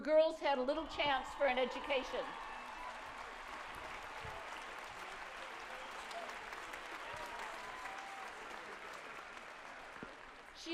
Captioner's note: applause